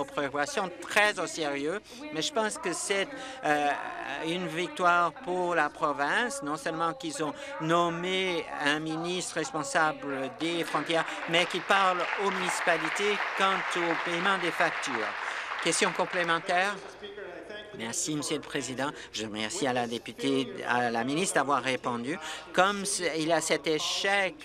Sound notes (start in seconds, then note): 15.8 applause